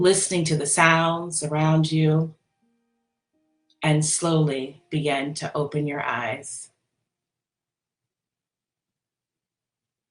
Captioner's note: pause